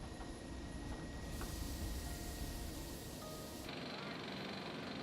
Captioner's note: background airfield noise